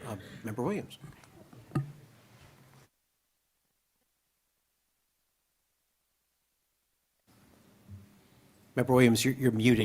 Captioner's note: muted